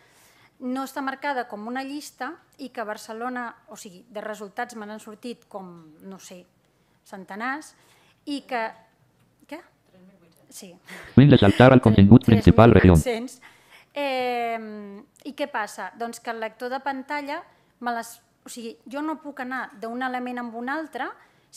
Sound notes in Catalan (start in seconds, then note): 10.8 veu del lector de pantalla